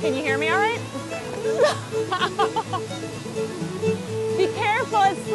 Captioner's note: laughs